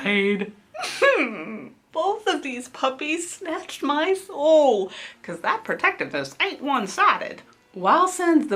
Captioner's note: whimpers